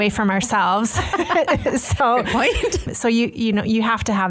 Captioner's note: laughs